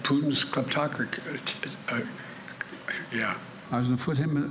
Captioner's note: mumbles and stutters